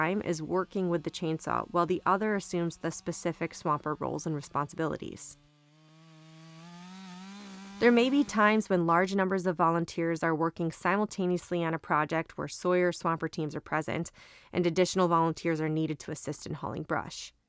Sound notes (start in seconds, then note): 5.9 sound of chainsaw